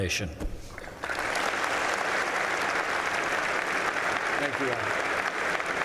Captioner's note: applause